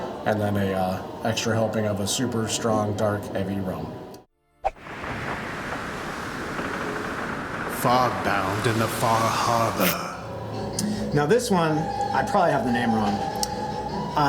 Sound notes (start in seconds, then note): 4.8 tense music; 7.8 voiceover